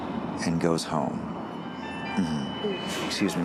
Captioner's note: phone ringing